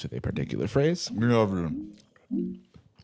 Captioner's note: mouth full